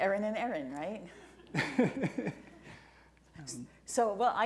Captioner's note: laughing